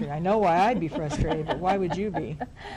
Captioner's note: laughs